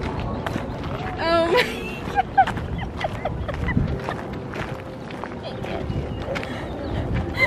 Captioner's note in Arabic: تضحك